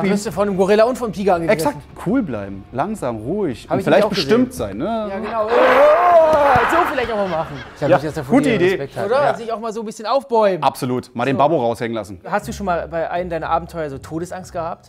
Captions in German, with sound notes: Dann wirst du von 'nem Gorilla und Tiger angegriffen. Exakt. Cool bleiben, langsam, ruhig. Vielleicht bestimmt sein. Genau. (Er macht Tierlaute.) So vielleicht machen. Gute Idee. - Oder? Kannst dich auch mal aufbäumen. - Absolut. Mal den Babo rauslassen. Hast du schon mal bei einem deiner Abenteuer Todesangst gehabt?